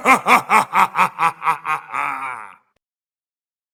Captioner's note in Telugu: నవ్వు